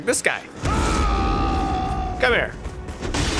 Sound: an agitated roar

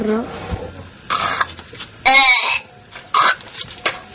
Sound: vomiting

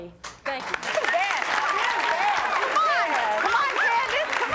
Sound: applauding

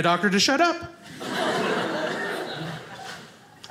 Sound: audience laughing

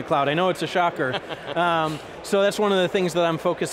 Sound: laughs

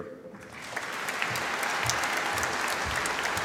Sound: audience applauding

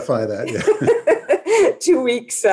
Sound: laughs

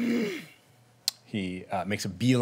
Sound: angry grunt

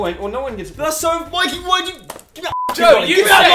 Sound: beep

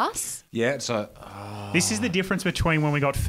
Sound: groaning

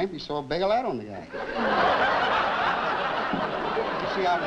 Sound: laughter

